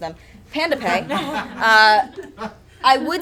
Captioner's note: audience chuckles